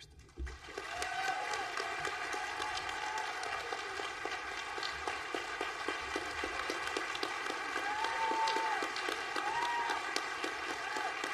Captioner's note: applause